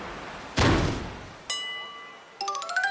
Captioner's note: thwack*!!!